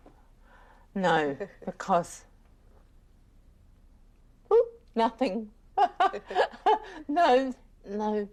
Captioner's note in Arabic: تضحك